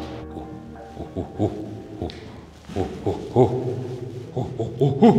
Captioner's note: imitating a gorilla